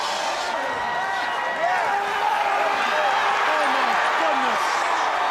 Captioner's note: crowd chatter